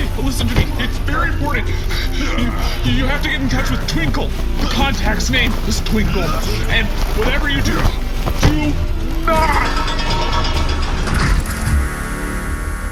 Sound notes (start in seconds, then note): 9.7 the door clangs shut